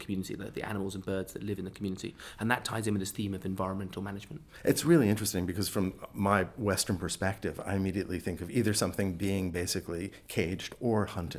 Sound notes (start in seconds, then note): 4.3 voiceover